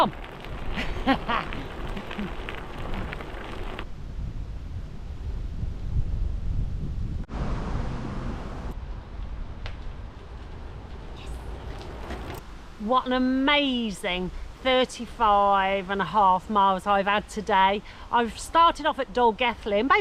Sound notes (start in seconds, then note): 0.8 laughter; 3.8 wind